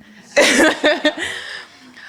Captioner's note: laughter